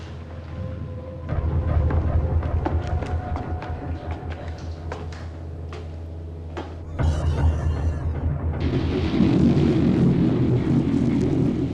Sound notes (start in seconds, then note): 6.8 pigs squealing; 7.0 thunder roaring